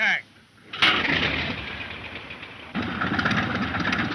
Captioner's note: engines sputters